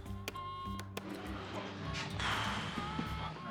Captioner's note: exhales